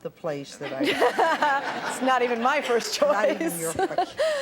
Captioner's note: laughing